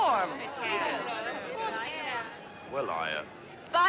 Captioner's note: Acordo murmurando